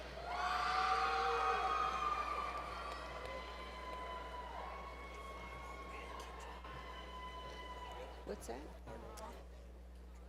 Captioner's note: faint Cheers From Audience; whispering